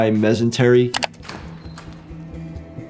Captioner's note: door creaking; mouse clicking; low tense music